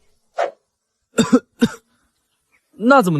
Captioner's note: cough cough